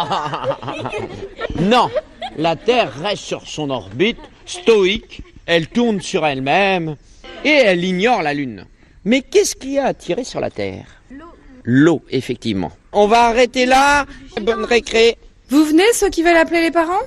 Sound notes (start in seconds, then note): 0.0 laughs